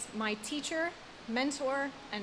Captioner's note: none